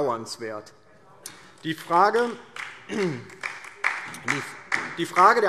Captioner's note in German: Beifall DIE LINKE und vereinzelt SPD